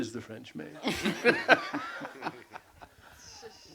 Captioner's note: laughter